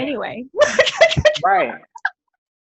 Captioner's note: laughs